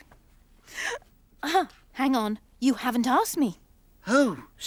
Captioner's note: gasps